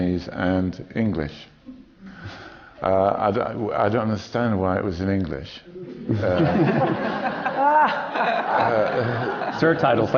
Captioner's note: laughter